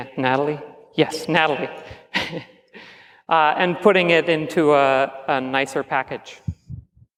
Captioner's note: chuckles